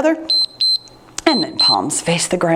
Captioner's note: timer beeps